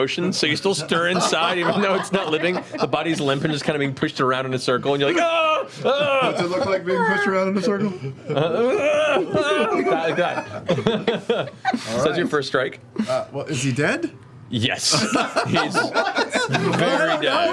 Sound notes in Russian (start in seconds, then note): 5.0 кричит в отвращении; 8.8 кричит